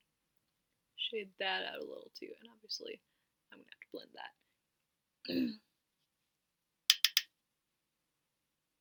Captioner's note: clears throat